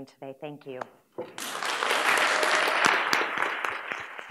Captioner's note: applause